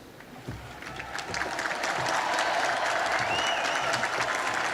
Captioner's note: applause